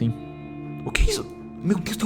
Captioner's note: with Ivete’s accent